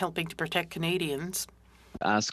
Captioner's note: speaking French